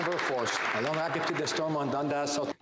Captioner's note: some Applause